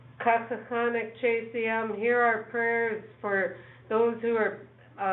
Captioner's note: speaking in foreign language